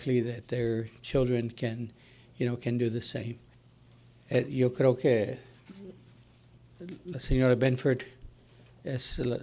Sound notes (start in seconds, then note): 5.2 speaking Spanish